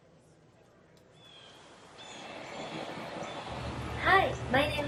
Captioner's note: bird calling